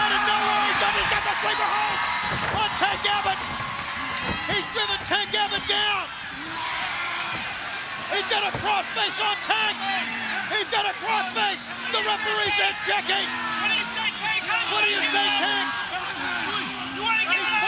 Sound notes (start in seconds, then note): 2.6 bodies thudding; 6.8 crowd cheering; 6.8 tank growling; 16.1 crowd cheering; 16.1 tank growling